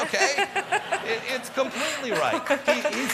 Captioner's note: laughter